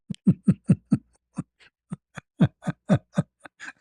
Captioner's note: ketawa